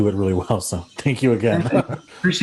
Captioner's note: chuckles